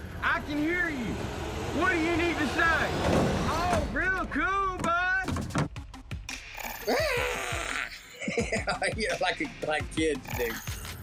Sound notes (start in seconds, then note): 3.0 thud; 6.8 laughing